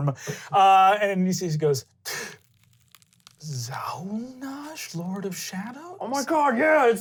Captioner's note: gasping